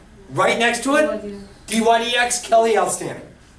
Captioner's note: voiceover